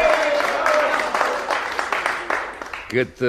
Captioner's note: applause